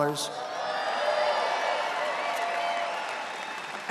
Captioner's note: cheering